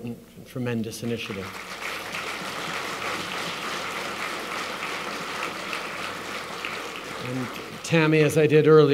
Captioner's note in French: Applaudissements